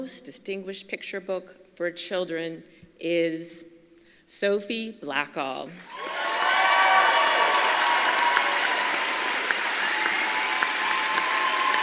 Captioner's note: applause